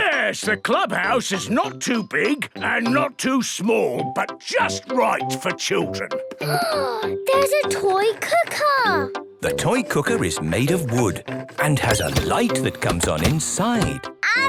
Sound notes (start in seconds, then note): 6.5 gasps